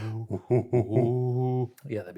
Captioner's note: grunts